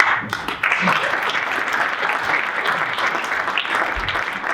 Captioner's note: audience applauding